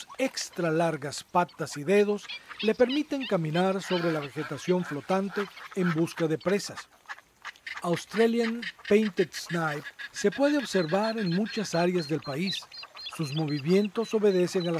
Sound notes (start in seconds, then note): 6.8 wetlands birds sounds